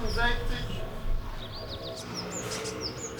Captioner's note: birds chirping